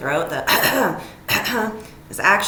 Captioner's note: person coughing